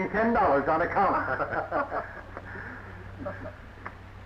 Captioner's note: laughing